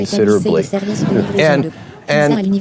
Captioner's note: audience laughing